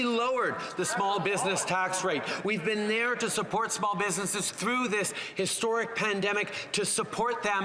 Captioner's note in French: voix de l'interprète